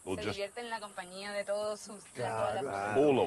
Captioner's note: they speak spanish